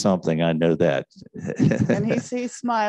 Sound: man laughing

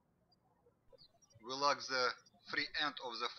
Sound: birds chirping

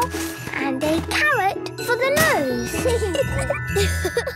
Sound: giggling; laughing

